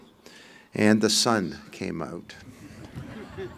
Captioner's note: laughter